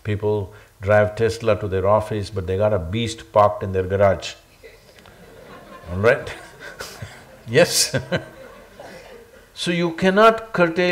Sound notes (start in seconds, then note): 4.6 laughter; 8.3 laughs